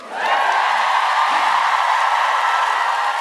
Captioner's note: cheering